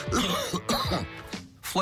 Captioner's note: cough, cough